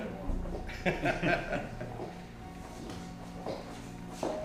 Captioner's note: men laugh